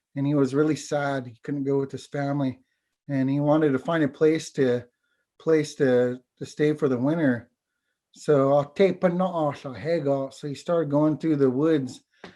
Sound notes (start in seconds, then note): 9.2 foreign language